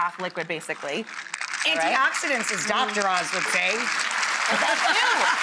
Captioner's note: laughs